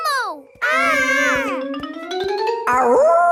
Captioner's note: kids yelling